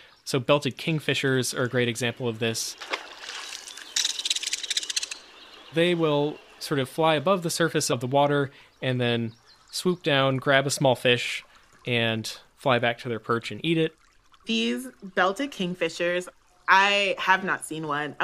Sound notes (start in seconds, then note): 2.4 splash; 3.3 Belted Kingfisher call